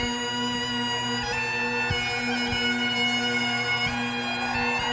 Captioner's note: crowd cheering